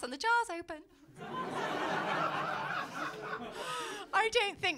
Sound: laughter

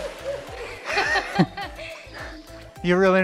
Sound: laughs

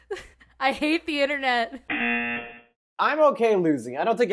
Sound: buzzer rings

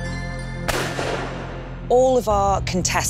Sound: mysterious music; gun firing

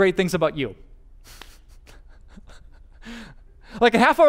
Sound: pastor: Laughter

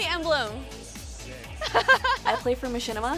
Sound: laughs

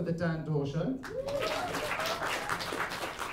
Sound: applause

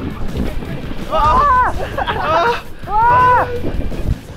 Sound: crashing

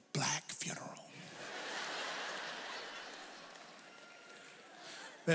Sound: audience laughs

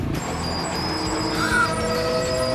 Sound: gasping

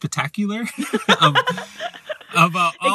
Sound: laughter

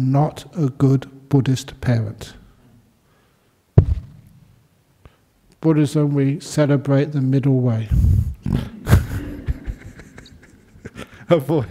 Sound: laughter

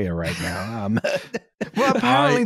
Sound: laughter

